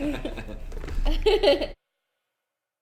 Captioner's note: everyone laughing